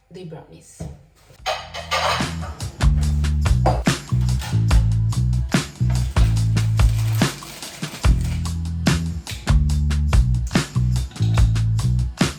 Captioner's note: kitchen noises